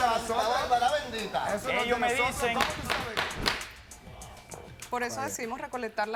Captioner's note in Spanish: Hablan al unísono